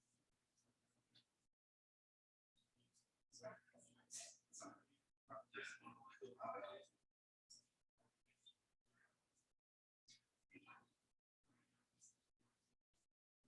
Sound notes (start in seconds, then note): 3.6 people chattering indistinctly